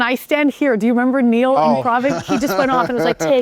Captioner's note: chuckling